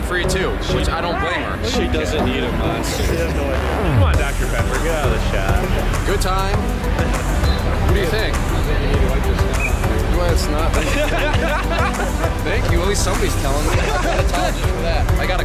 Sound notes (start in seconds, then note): 10.8 laughter